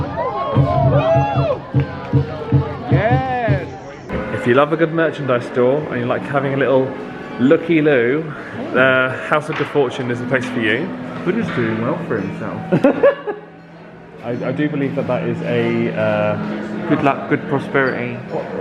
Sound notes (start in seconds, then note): 0.0 audience cheering; 12.6 laughing